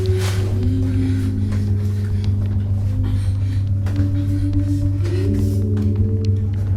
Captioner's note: breathing heavily; ominous music